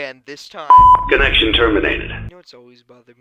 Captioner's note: beep